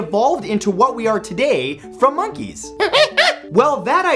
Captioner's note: monkey barks